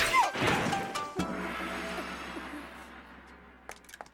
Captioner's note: shrieks